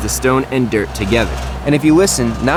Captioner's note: tinny vibration noise